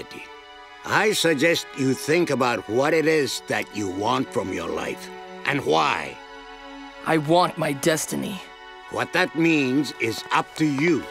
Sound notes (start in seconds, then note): none